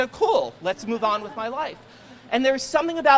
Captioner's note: crowd laughing